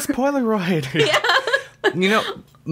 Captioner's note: laughs